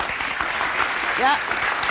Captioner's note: applause